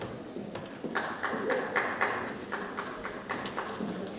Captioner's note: person claps